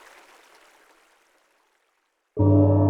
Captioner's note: river sound fades out